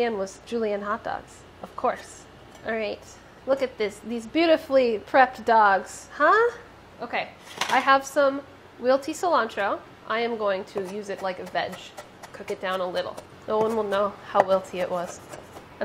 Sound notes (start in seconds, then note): 14.8 chopping